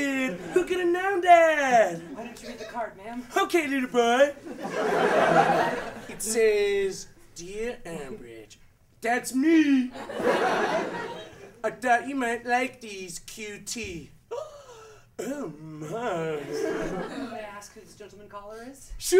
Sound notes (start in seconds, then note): 14.4 gasp